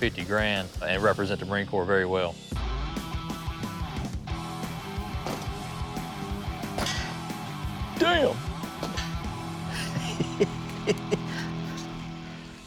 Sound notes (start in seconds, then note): 2.2 rock music playing; 9.7 laughs